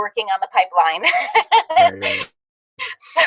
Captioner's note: laughs